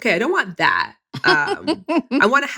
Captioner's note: laughs